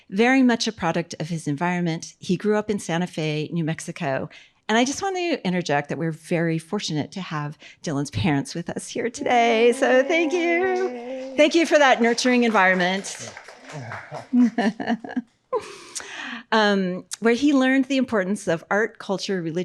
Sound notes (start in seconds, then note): 9.6 audience applauding; 14.5 chuckles